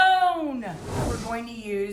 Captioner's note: whoosh